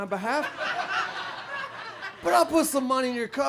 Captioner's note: audience laughs